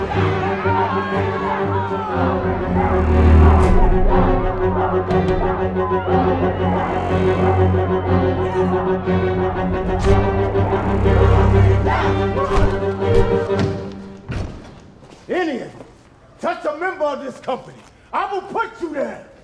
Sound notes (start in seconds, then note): 9.9 stabs; 12.4 punch thud